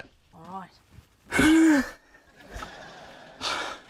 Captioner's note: exhales